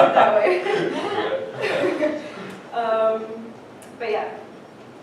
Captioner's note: laughter